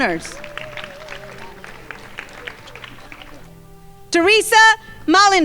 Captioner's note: crowd applauding